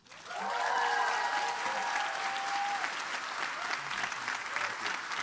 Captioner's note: applause